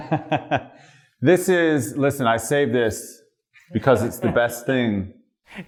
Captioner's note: laughter